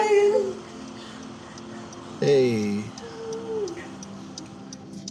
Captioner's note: car blinker signal